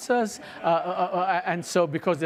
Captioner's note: audience laughs